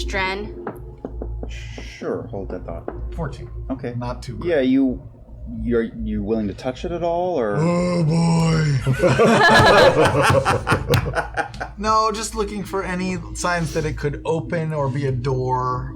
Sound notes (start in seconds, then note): 8.8 laughter